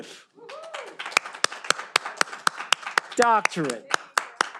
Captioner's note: all applauding